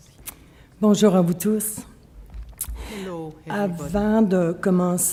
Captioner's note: speaking French